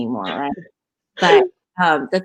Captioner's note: laughing